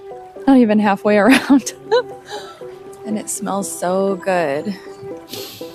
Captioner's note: laughs